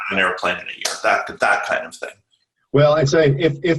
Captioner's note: clapping